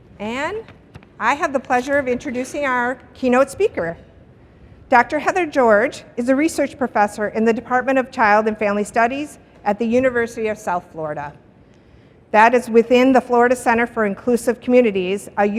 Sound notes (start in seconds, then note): none